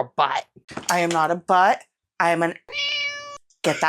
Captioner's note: meow